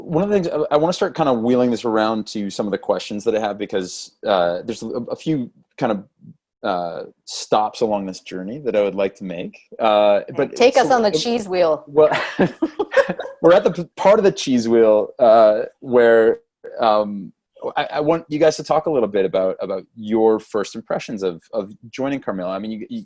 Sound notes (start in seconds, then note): 12.0 laugh